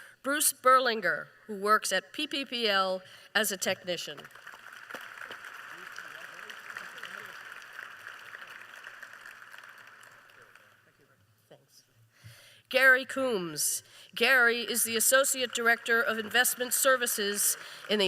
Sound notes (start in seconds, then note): 4.0 applause